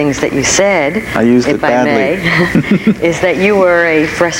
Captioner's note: both laugh